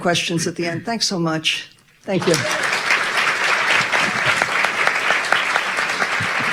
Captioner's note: audience applauding